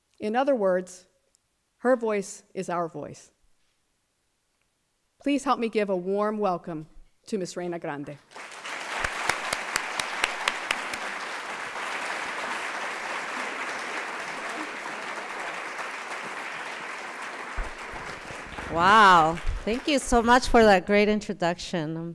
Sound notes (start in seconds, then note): 8.2 applause